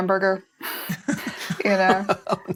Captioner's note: laughter